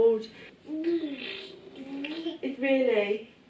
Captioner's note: baby babbling